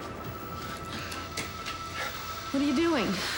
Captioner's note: gas hissing